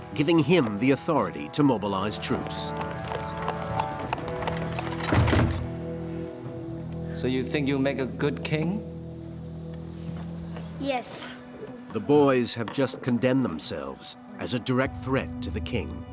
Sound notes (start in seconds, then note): 3.1 horse hooves clopping; 4.4 gates thudding